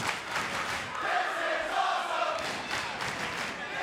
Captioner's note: clapping; clapping